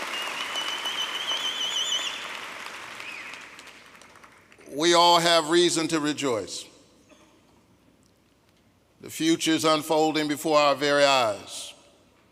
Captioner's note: applause